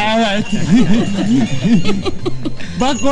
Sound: laughing

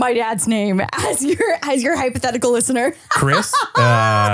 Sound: laughs

